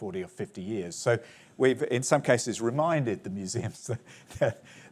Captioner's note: chuckles